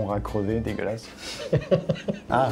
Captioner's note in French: rire